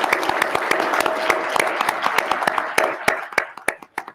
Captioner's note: applause